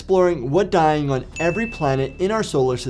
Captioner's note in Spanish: ping gráfico